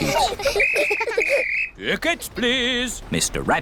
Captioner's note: blows whistle